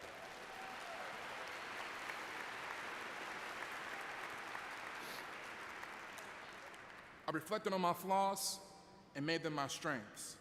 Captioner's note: applause